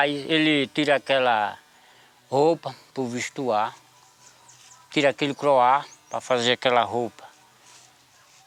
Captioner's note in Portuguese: Canto de pássaros